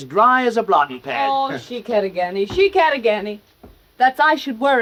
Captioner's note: speaking in foreign language